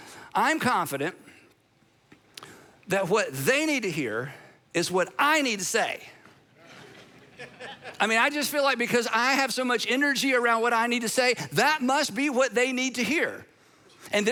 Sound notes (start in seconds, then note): 6.6 audience laughing